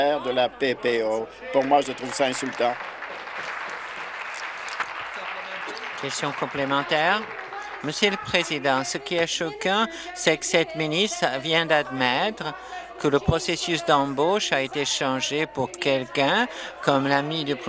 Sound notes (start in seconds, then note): 5.3 applause